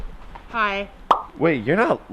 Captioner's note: pop!